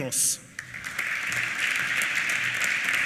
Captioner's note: applause